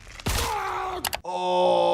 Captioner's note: person yelling